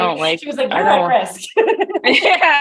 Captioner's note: laughs